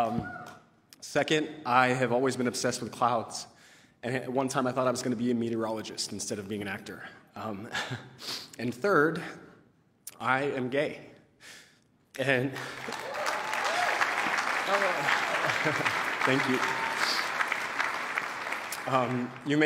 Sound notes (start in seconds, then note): 12.5 applause